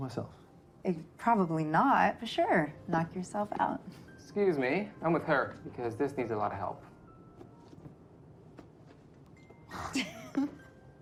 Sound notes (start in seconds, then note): 8.9 laughing